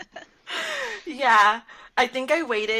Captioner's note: laughter